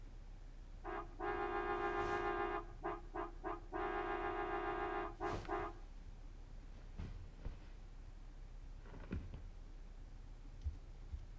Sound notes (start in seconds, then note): 0.8 car horn honking